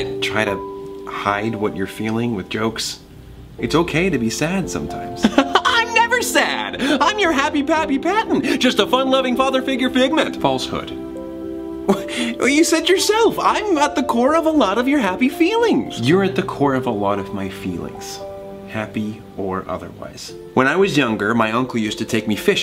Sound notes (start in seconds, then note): 10.9 soft music; 11.9 chuckles